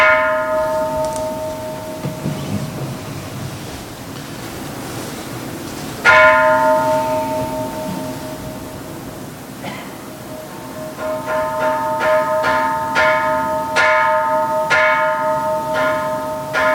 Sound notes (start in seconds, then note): 1.5 Kansho ringing; 6.0 Kansho ringing